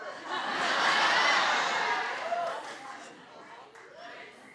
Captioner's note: audience laughs